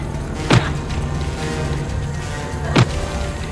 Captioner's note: bat thudding